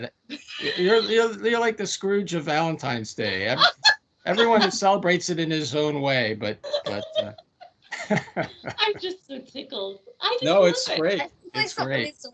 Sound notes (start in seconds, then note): 0.4 laughing; 4.2 laughing